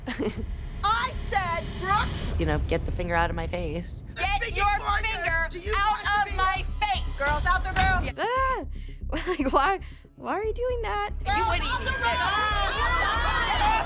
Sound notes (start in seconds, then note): 8.1 chuckles; 10.9 overlapping chatter